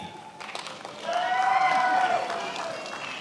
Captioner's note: attendees applauding